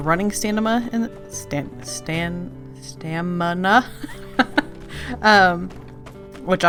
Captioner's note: laughs